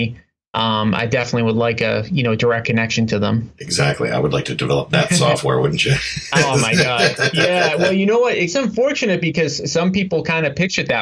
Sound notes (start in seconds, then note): 4.7 laughing